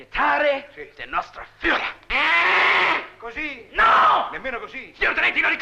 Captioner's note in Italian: pernacchia